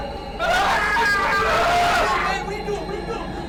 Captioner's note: Tom screaming